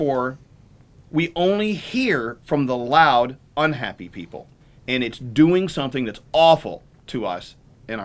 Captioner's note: none